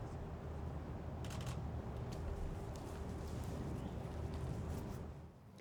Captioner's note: camera clicks